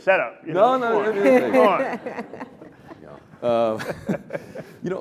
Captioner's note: laughter